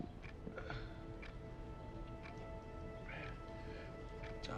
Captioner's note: Johnny gasping